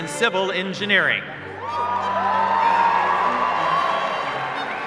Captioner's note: cheers and applause